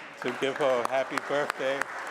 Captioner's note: applause